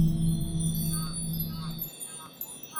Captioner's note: chimes; distant geese